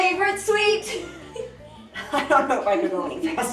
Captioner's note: laughs